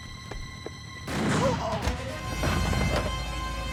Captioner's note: gun firing